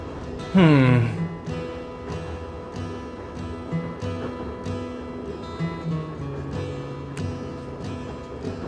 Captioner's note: yawn